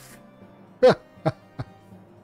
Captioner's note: laughs